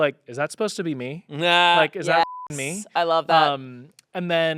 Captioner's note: beep